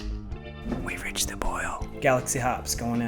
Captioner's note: whispers